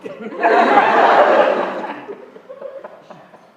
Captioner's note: laughter